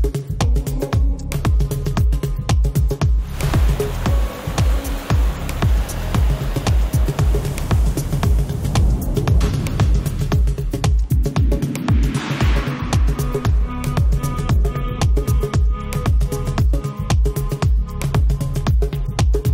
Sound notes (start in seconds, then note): 3.1 water roaring